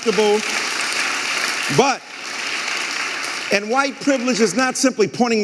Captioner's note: audience applauding